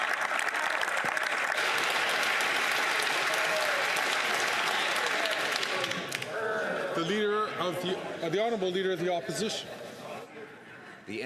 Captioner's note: some Applause